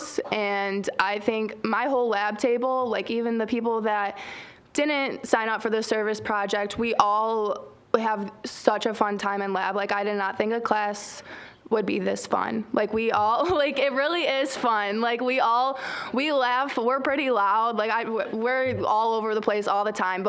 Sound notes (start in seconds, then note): 14.4 chuckling